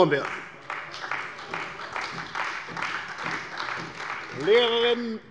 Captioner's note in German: Beifall bei der CDU